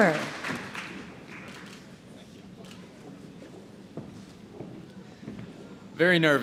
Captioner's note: applause